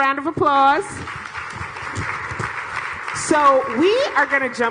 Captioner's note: applause